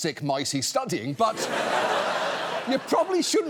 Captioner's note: audience laughs